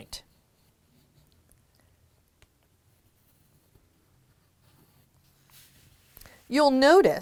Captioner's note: no significant sound